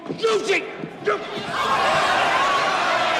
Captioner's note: clamoring